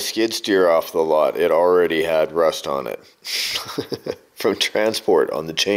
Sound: laughs

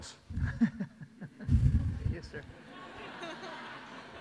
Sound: audience laughs

